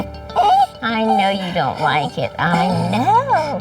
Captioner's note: whines